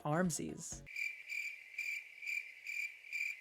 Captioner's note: crickets